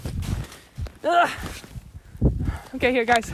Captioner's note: groans